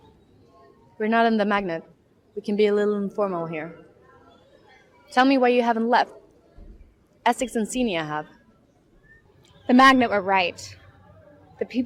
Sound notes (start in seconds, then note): none